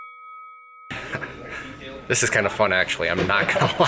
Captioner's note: boxing bell rings; laughs